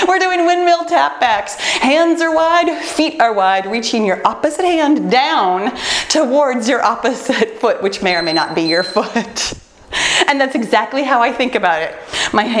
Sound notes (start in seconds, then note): 8.0 timer beeps; 9.9 laughs